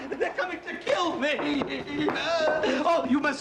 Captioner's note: sobbing